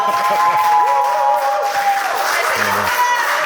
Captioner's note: clapping